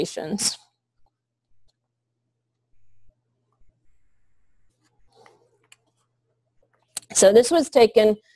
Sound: pause

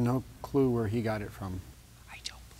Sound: whispering

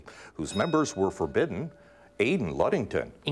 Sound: bell ringing

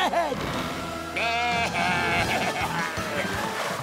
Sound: baaing

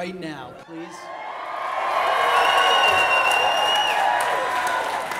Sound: audience cheers

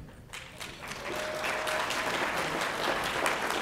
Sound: applause

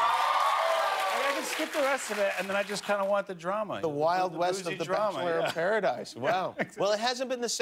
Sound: cheers and applause

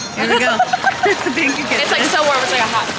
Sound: laughs

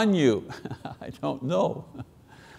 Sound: chuckling

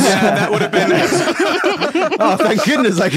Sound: group laughing

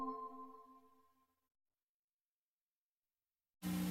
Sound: silence

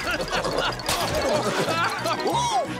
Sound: laughing

